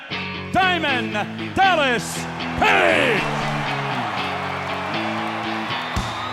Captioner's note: crowd cheers; groovy rock music